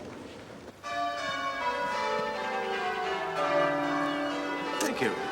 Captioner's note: bells ringing